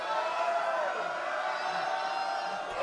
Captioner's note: crowd cheering